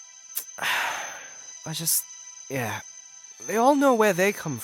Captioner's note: sigh